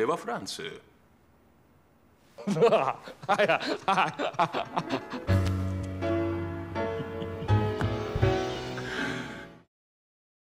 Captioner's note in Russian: странный смех, музыка, подписка, все дела